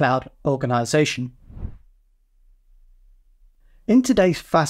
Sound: air whooshing

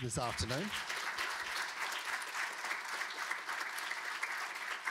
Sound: audience applauding

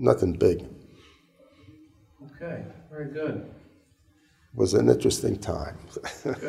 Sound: chuckle

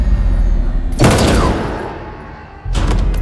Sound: crash; gunshots

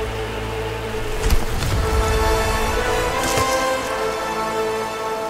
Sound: water flowing

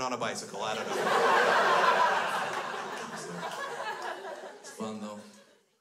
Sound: crowd laughs

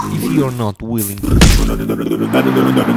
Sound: smash

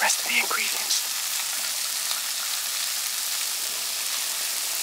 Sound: pan sizzles

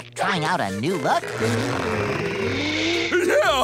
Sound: gasping

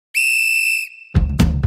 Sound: whistle Blows

